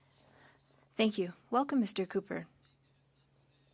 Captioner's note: speaking french